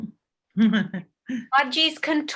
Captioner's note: chuckles